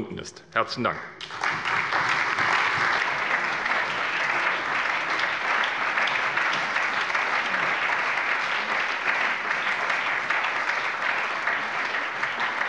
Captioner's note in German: Allgemeiner Beifall